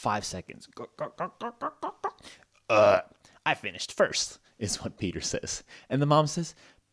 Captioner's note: burp